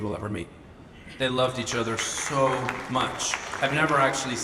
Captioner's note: audience applauds